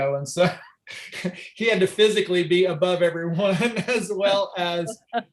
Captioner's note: chuckles